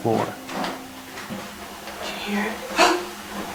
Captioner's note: child's laughter from upstairs